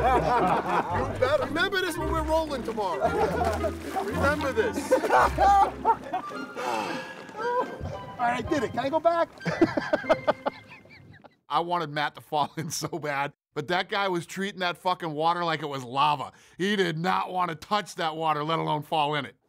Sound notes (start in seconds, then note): 0.0 laughing; 6.6 sighs; 9.3 chuckling; 9.4 Dana laughs